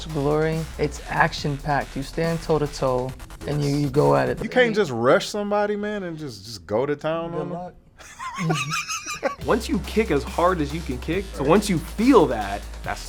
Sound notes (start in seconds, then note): 8.0 Spice laughing; 8.1 upbeat music